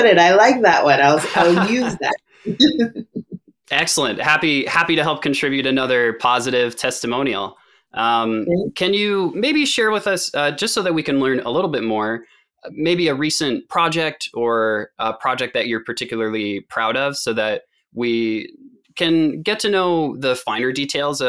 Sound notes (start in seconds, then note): 1.1 laughs